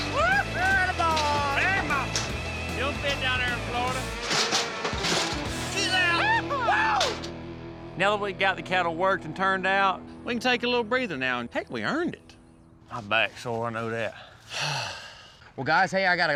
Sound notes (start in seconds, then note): 0.3 shouting; 5.3 shouting